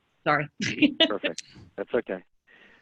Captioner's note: laughs